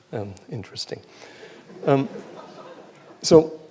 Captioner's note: laughter